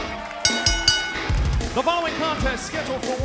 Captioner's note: bell ringing